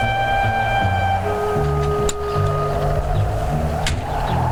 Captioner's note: dramatic music; wind howling; car door thudding